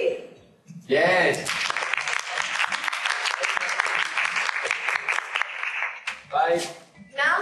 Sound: applause

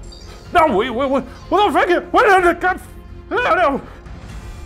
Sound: stammering

